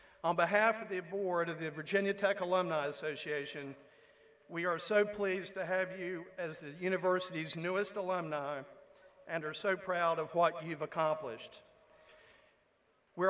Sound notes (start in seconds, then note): none